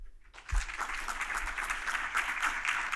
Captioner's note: applause